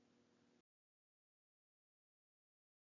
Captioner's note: pause